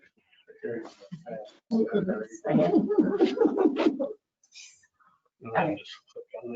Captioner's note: members talking in the background